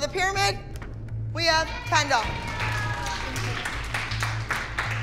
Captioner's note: cheering